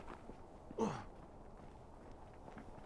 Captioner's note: Waco groaning